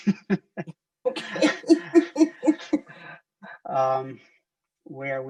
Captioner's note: laughs